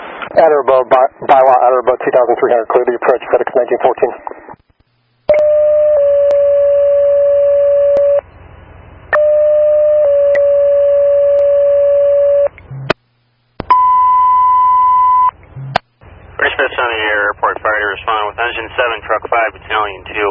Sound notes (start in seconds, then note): 5.3 airport Fire dispatch tones